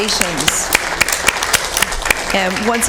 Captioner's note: applause